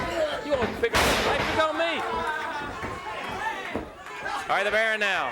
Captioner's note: body thudding; wrestler bellowing